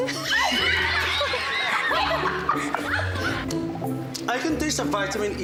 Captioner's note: laughs